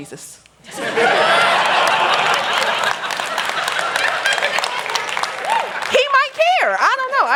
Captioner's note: laughter